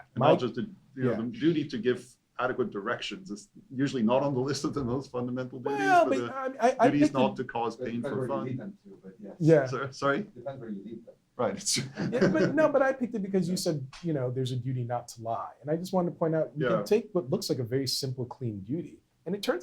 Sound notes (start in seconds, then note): 11.8 laughter